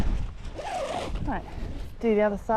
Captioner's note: zipper